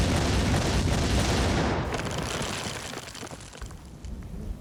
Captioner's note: explosion